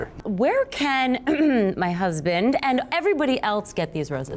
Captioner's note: clears throat